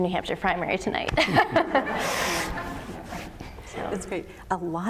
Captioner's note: laughter